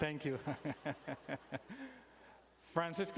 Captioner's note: chuckling